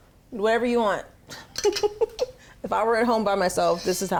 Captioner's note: laughs